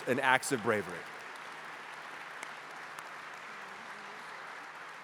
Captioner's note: applause